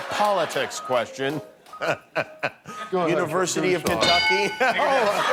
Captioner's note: laughs